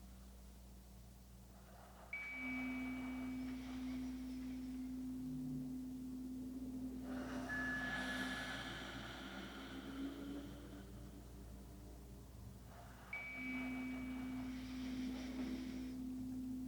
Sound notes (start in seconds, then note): 1.6 chimes ringing continues; 1.6 slow breathing continues; 11.5 chimes ringing continues; 11.5 slow breathing continues